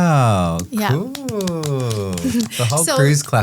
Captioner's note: group clapping